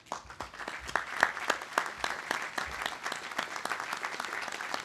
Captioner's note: audience applauding